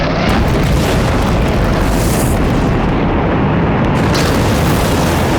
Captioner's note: rocket launching